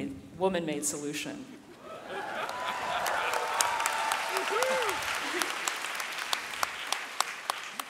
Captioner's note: audience laughing, cheering and whooping